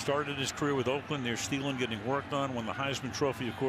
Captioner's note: pa announcement